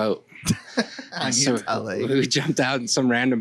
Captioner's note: laughs